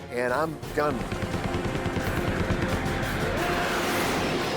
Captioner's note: gunshots